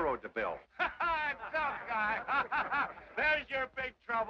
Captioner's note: laughs